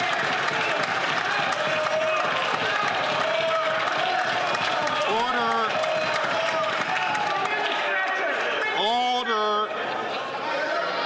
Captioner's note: some Applause